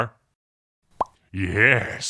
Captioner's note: pop